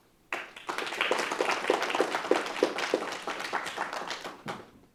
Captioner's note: audience applauding